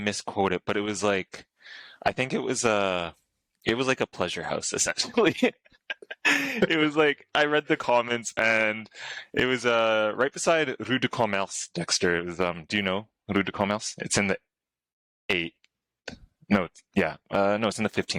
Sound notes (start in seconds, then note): 5.8 laughter